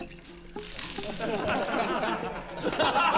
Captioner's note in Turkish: Gülme sesleri